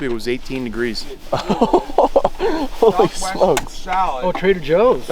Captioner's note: laughs